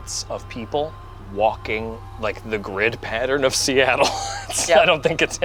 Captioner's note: laughs